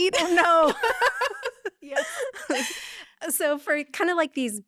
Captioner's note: laughing